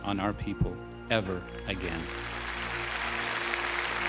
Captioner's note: applause